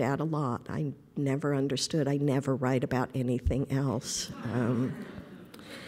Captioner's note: laughter